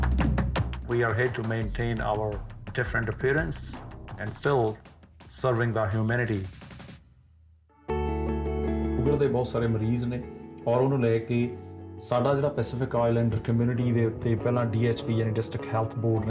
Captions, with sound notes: We are here to maintain our different appearance and still serving the humanity. (soft music) (speaking in Punjabi)